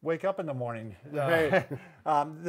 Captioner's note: chuckles